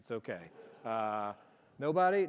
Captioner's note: audience laughing